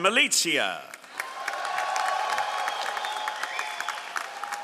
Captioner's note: all applauding